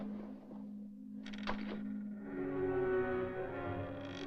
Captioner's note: creaking